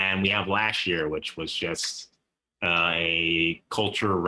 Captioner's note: laugh